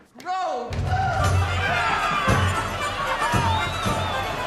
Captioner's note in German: Jubel; Schreien; optimistisch